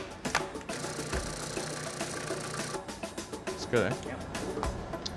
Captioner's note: whirring sound